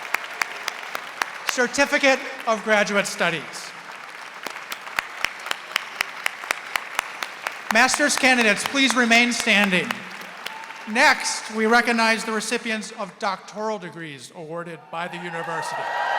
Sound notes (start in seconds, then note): 4.6 audience applauding; 15.0 audience cheering